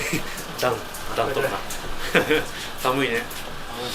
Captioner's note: laughs